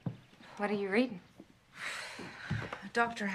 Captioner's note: Annie Sighs